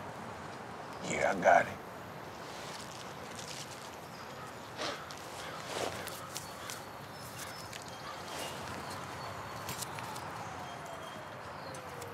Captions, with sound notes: - Yeah, I got it. (dealer sniffs) (sirens blaring)